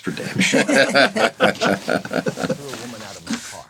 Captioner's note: all laughing